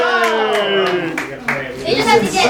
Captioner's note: talking